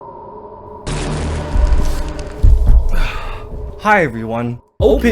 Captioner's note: eerie wind whirling